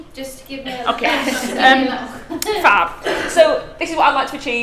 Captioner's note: laughs